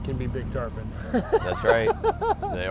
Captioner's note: laughs